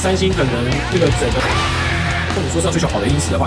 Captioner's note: screaming